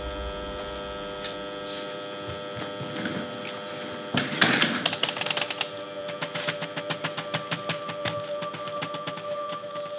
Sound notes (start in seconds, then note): 4.8 pounding on keyboard